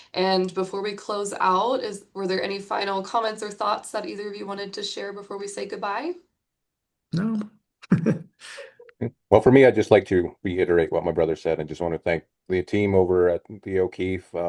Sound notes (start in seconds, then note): 7.8 laughs